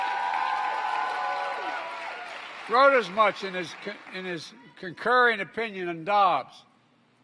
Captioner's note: applause